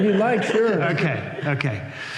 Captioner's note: laughter